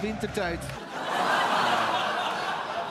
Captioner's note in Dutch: gelach